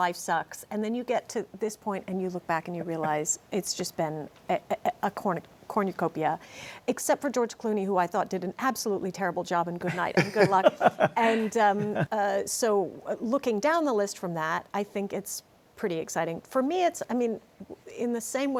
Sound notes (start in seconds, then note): 9.8 laughter